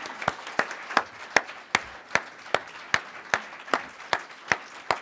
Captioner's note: applause